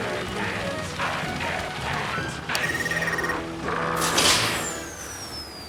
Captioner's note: button beeps